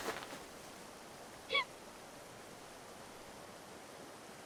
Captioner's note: Lily sobbing